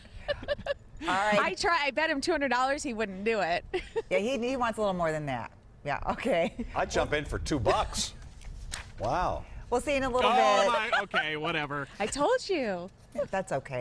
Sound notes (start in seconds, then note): 3.7 laughter